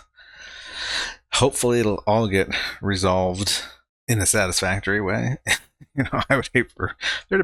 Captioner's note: chuckling